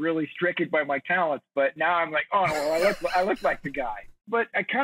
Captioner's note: chuckles